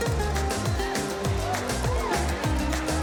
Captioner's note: cheers